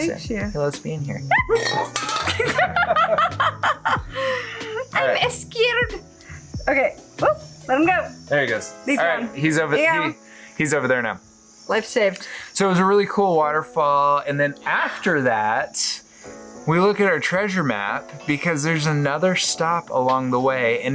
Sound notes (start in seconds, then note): 1.4 both laughing